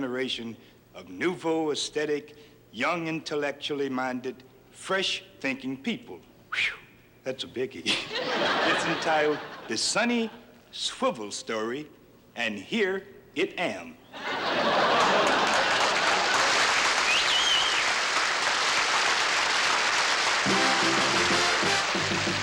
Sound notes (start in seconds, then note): 7.8 laughter; 14.1 laughter; 14.9 applause; 20.4 upbeat music